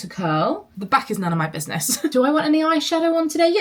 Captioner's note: laughs